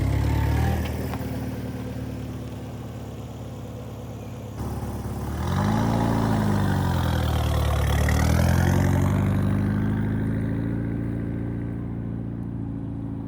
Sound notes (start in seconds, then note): 1.3 engine revving